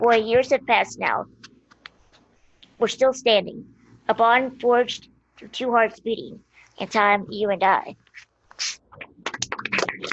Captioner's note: applause